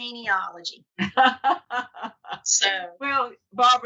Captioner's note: laughs